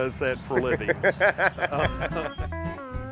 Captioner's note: laughing